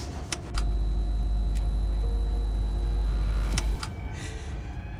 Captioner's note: gloomy music; button clicks; screen buzzing; gloomy music